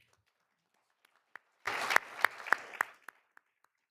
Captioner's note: all applauding